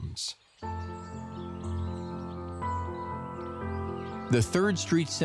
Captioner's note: birds chirping